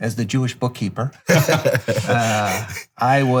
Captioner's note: laughing